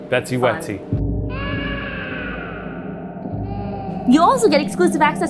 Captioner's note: baby cries